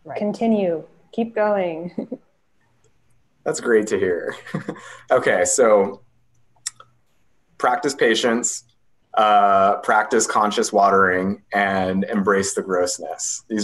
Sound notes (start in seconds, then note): 4.1 laughs